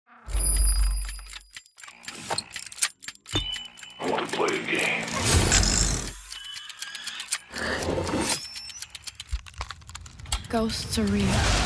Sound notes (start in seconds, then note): 0.2 alarm rings; 1.1 timer ticking